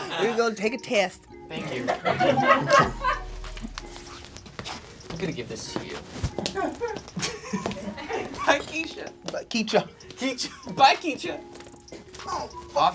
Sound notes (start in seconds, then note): 0.0 laughing; 2.5 crew laugh; 6.6 and crew laugh; 10.2 laughing